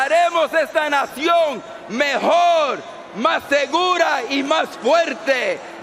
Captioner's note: speaking Spanish